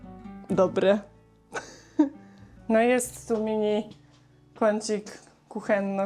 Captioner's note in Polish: śmiech